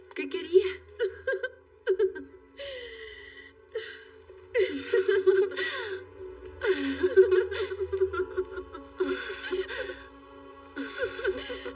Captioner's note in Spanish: Ríe